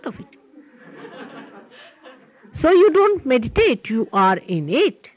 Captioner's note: laughter